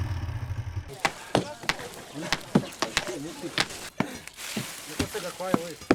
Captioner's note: Démarrage d’une moto; coup de marteau